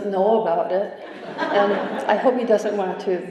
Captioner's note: laughter